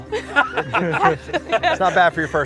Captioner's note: group laughs